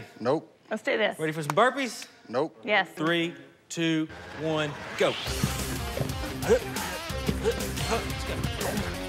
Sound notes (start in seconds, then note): 4.8 upbeat music; 6.2 grunting